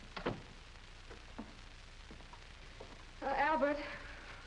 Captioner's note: door thuds